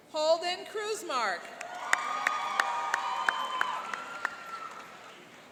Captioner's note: cheering and applauding